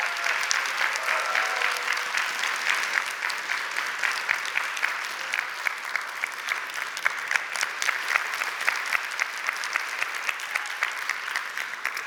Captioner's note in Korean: 박수와 환호